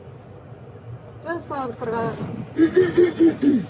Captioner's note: speaking in foreign language